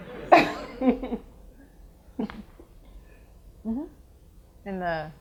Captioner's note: audience laughs